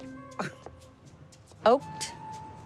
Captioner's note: scoffs